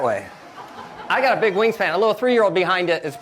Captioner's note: audience laughs